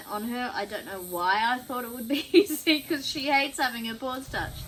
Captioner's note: laughs